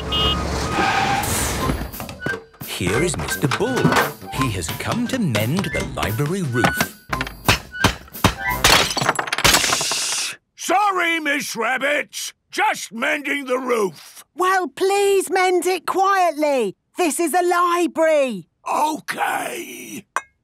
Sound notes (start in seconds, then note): 0.0 honking, engine revving; 6.9 banging, crashing; 18.3 whispering